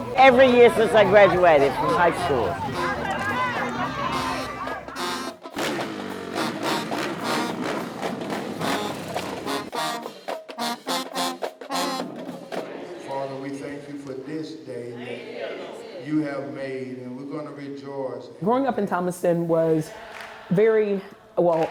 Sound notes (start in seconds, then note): 3.2 band music plays; 6.2 engines revving; 9.6 band music plays